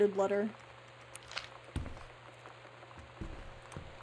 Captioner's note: soft Thump